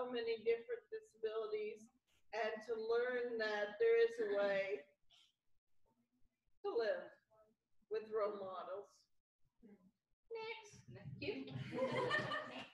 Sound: laughter

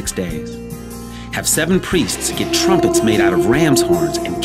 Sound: horns blow

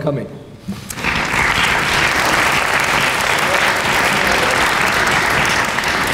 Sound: clapping

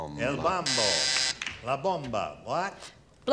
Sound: buzzer

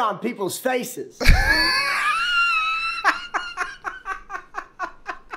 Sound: cackles

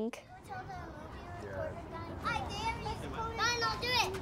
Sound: children chattering

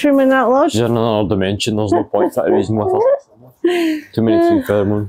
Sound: Unicorn laughs madly

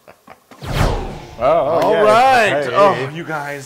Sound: laugh

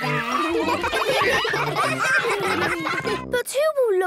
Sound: ruckus

